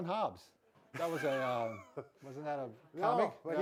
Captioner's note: laughing